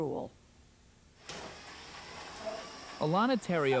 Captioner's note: power wheelchair sounds